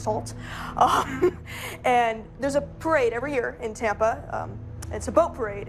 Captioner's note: laughs